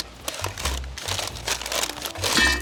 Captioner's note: crinkling; lid thuds